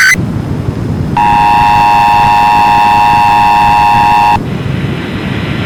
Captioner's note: alert Tones Playing; beep Noise Playing